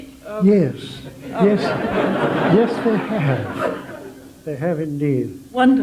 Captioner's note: general laughter